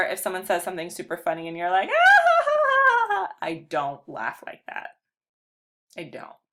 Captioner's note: laughs